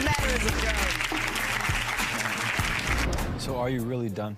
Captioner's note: audience applauds